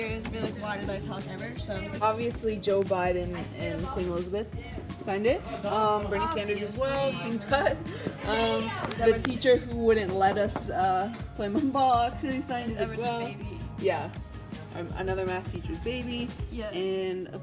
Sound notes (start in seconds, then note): 8.2 laughs